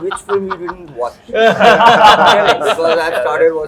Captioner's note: laughs